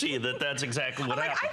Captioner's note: laughter